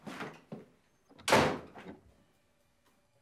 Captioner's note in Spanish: portazo